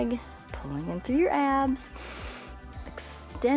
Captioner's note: inhales